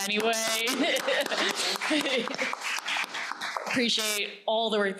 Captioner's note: audience applauding